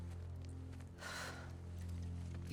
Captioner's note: sigh